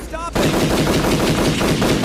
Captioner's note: gunfire